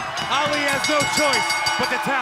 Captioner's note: bell ringing